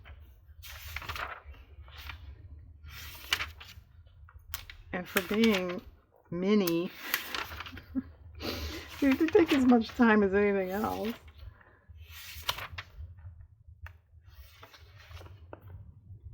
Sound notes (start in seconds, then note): 7.7 laughs